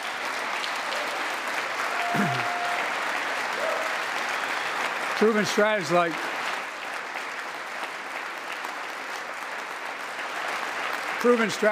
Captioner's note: applause